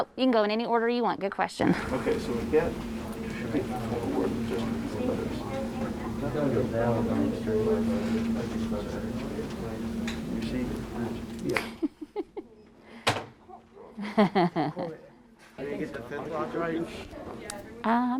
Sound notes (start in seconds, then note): 3.4 students chattering; 11.8 chuckles